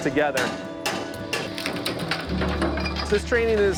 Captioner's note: hammering and wood cracking